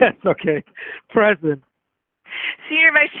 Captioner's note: laughing